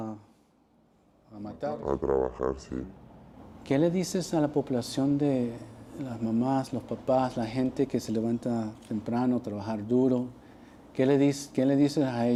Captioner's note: speaking alternate language